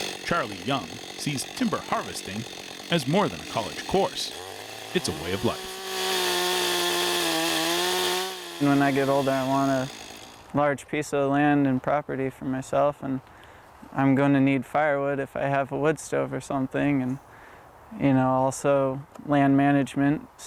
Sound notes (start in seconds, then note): 6.1 chainsaw buzzing